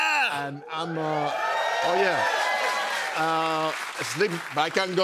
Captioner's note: cheers and applause